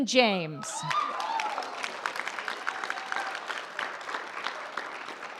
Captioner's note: audience applauds and cheers